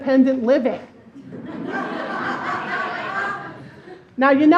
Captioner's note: laughing